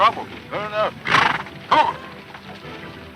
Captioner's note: horse snorts